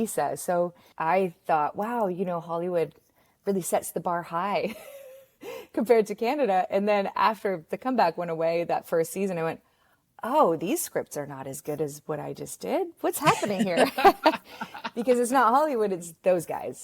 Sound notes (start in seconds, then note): 13.2 both laugh